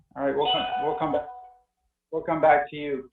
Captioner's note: bell rings